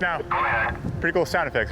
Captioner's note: radio Voice